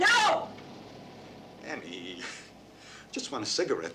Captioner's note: exhales sharply